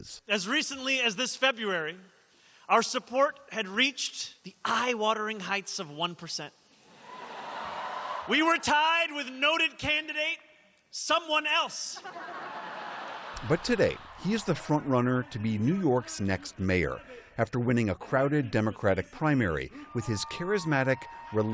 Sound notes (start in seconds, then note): 6.9 cheering; 11.9 laughter